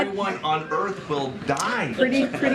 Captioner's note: laughter